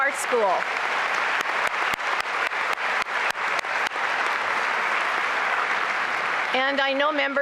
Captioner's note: applause